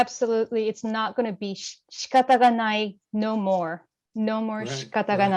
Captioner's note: japanese